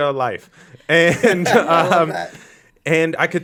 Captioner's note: all laugh